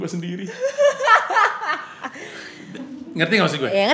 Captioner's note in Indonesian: ketawa